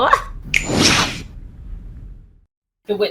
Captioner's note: q snap & flash